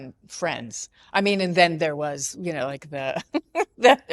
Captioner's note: laughs